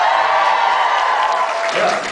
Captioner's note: applauds; cheers